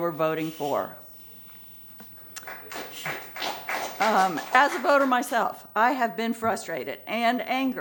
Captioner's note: applause